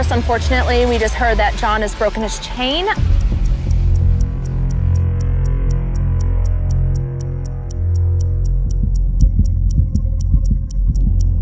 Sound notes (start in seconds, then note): 2.9 clock ticking; 4.0 dramatic music